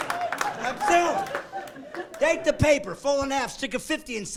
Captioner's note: clapping; laughing